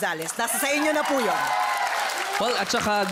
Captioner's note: cheering